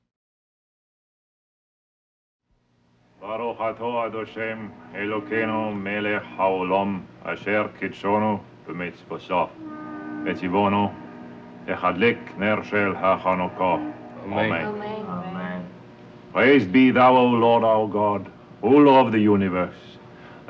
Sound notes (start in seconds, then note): 3.2 Otto speaking in Hebrew; 3.7 distant horns tooting